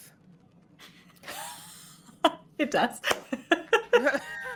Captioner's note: laughs